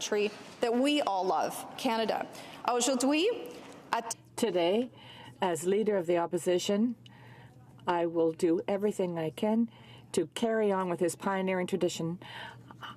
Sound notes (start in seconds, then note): none